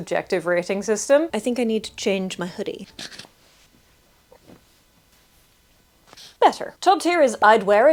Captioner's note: cloth-related noises